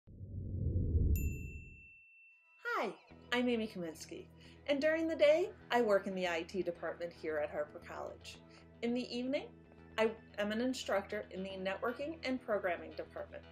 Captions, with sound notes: [Bell dings as Destination Harper appears] [Background music begins] Hi, I'm Amy Kaminski, and during the day I work in the IT department here at Harper College. In the evening, I am an instructor in the Networking and Programming Department.